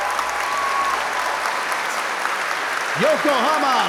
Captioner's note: audience applause